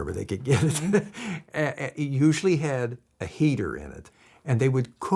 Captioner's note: laughs